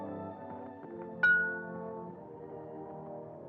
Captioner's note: glass clinking